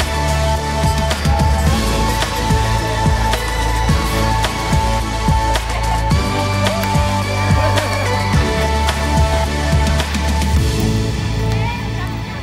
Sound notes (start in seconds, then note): 6.9 crowd chattering; 6.9 woman cheering